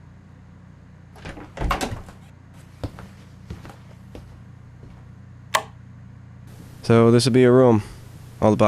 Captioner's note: lighswitch clicks